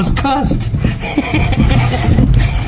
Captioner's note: laughing